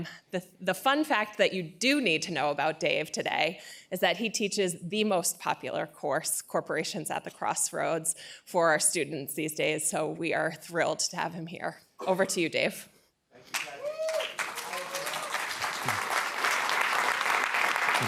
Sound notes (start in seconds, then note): 13.4 applause